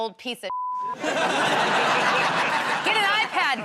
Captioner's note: laughter